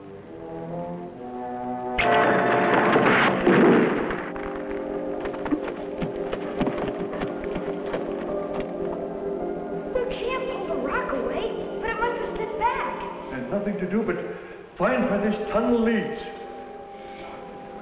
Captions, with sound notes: (boulder crashes) - We can't pull the rock away, but it might slip back. - We've nothing to do but find where this tunnel leads.